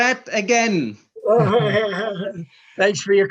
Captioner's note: laughs